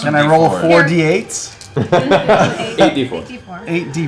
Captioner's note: laughs